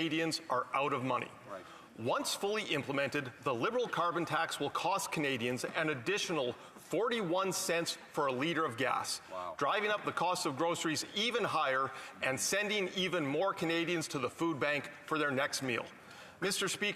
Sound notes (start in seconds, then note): none